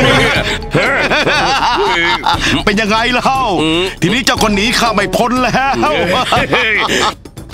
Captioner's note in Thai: หัวเราะ